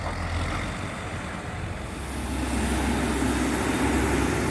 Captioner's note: loud truck noises